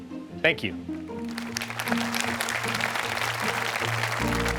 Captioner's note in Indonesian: Tepuk tangan